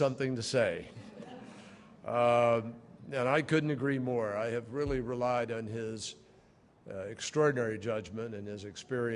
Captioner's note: laughter